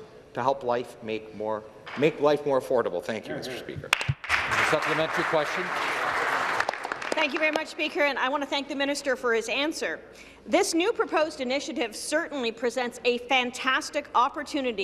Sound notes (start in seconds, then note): 6.4 some Applause